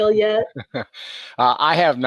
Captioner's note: laughing